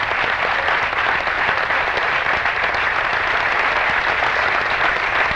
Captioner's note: applause